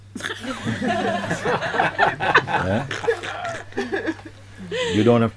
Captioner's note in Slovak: Smiech